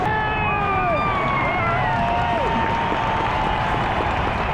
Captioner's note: crowd cheering